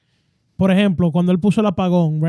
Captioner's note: speaking Foreign Language